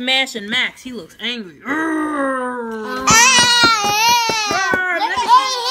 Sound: growls

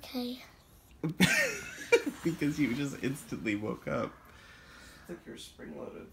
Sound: laughing

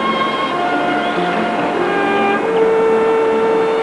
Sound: birds chirping

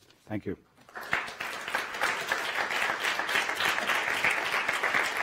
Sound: audience applauds

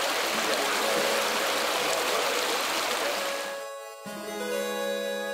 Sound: water flowing

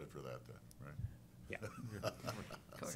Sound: chuckles

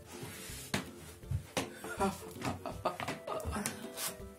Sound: laughing

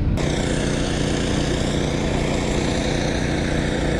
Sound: engine roaring

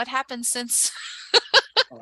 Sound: laughing

